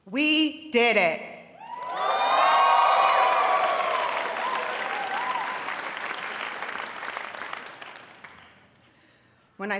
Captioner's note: audience cheering and applauding